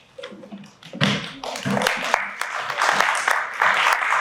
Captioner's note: applause